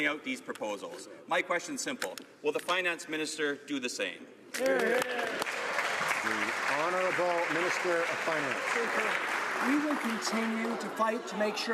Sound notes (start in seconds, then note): 7.7 some Applause